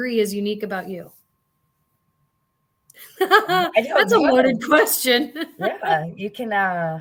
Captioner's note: laughter